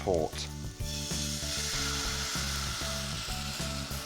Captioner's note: mixture sizzles